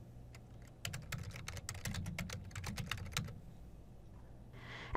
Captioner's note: typing